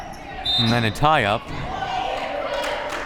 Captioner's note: whistle